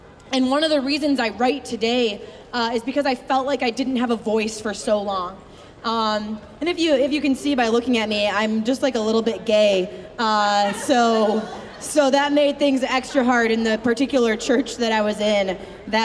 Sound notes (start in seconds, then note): 10.7 audience laughing